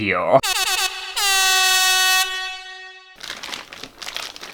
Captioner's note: air horn!!!